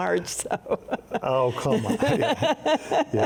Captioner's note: both chuckling